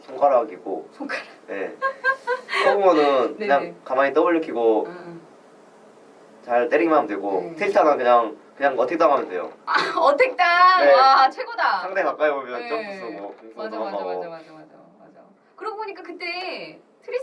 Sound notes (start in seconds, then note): 10.3 laughs